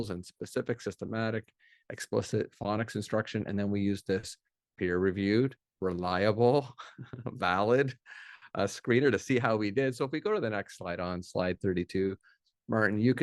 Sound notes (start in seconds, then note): 6.8 laughs